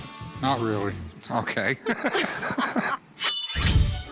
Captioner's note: laughing